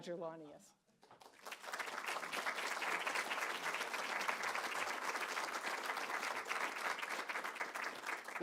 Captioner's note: applause